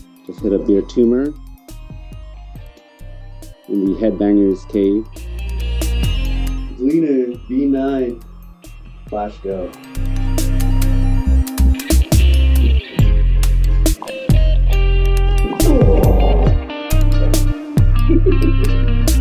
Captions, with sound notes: Just hit up Beer Tumor in the Headbanger's Cave. Gleaner V9. Flash Go. [Surprised Grunt] [Laughing at Self]